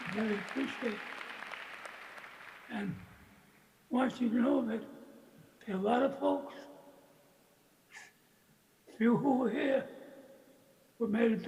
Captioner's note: applause